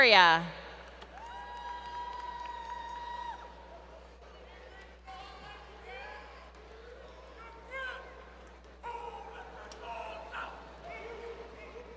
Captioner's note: crowd Cheering